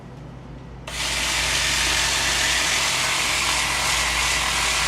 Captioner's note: machinery whirring